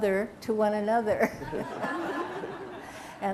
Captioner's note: laughter